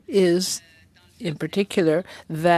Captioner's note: speaking French